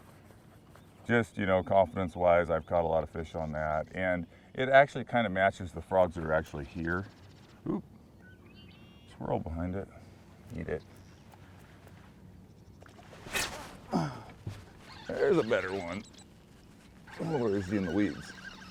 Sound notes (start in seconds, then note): 12.7 reel cranking; 12.8 rod whipping